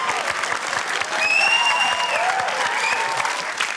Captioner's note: whistling